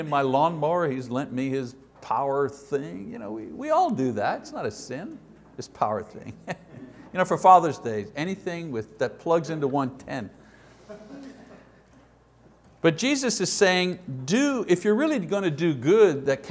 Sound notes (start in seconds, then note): 6.4 chuckle